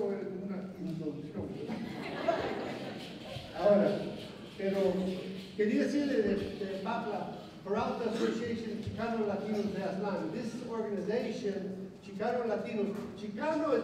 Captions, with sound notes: [LAUGHTER] [NON-ENGLISH SPEECH] This organization, Chicago Latinos [NON-ENGLISH SPEECH]